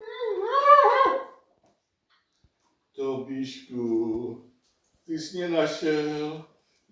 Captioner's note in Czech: Woof, woof